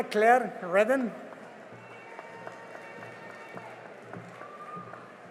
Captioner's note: cheering and applause